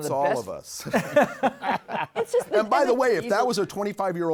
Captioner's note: laughing